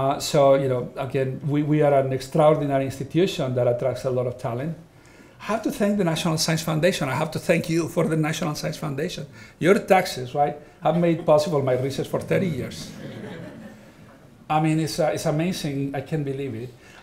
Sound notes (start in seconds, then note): 12.1 audience laughing